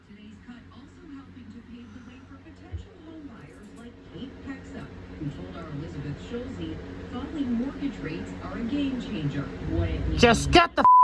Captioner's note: "Entertainment Tonight" plays in background